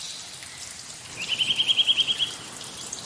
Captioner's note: bird call